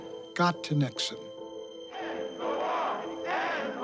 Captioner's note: chanting